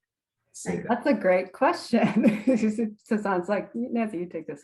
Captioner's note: laughs